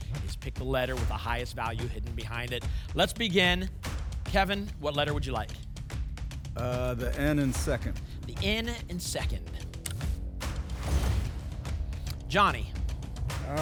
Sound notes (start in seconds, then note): 10.4 whoosh; 10.6 thump